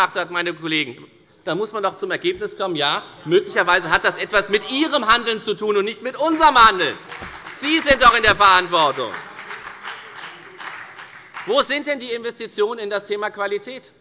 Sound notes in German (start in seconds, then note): 8.1 Beifall bei der FDP und bei Abgeordneten der SPD